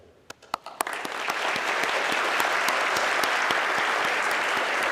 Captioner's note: everybody clapping